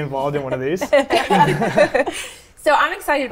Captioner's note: all chuckle